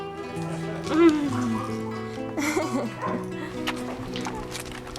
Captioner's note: laughing